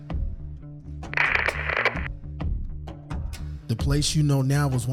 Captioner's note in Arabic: راديو am ثابت